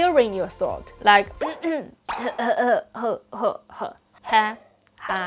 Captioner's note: coughing